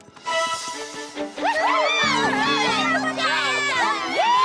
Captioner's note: all cheering